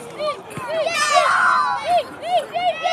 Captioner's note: joyful shouts; sorrowful shouts